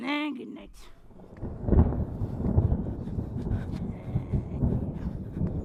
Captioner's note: thunderclap